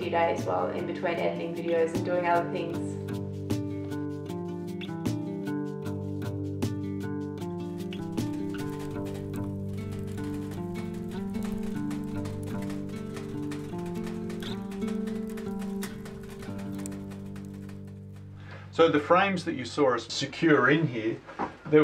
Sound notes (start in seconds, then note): 3.1 soft music; 8.4 fire crackling